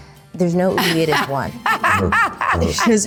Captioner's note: Juliette laughing